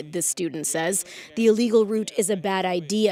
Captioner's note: foreign language